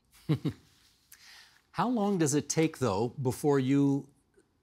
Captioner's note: chuckling